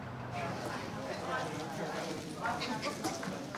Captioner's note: distant chatter